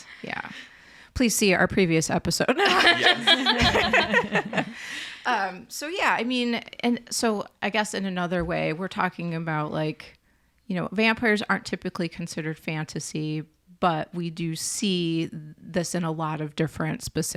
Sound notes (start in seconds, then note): 2.5 laugh